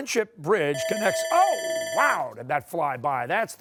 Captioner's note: bell ringing